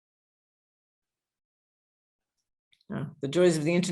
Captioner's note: silenced pause